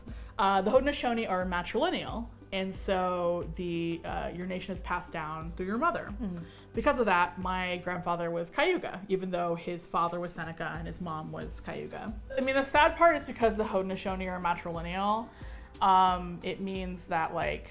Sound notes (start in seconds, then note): none